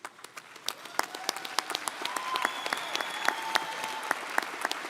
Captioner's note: audience applauding